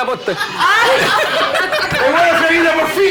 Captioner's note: laughs